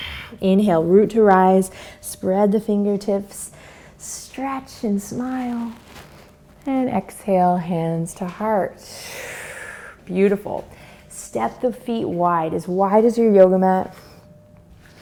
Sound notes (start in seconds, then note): 0.0 exhales; 8.9 exhales